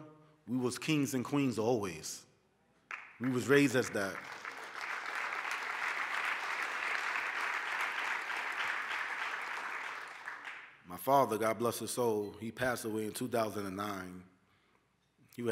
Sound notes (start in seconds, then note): 2.8 applause